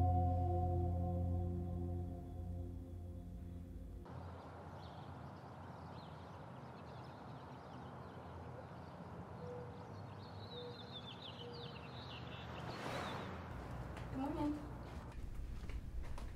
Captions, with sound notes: (suspenseful music continues) (birds chirping) (distant traffic humming) - Good morning.